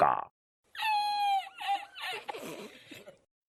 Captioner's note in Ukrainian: сміх